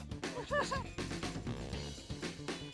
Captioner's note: upbeat music plays; laughs